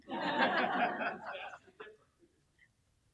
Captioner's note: laughing